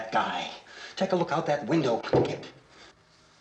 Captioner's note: footsteps